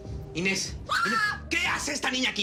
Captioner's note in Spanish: Grito